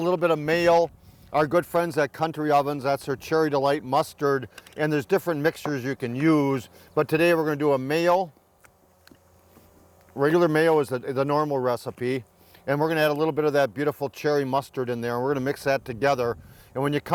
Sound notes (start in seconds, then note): none